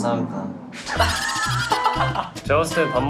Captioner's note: ha ha ha ha ha ha